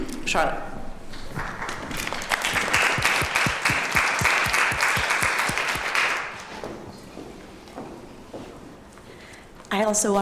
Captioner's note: applause